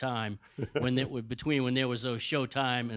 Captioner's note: Byron laughing